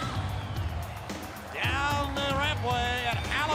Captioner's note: crowd cheering